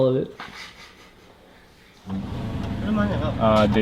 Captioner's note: chuckles; foreign language